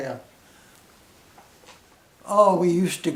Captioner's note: silence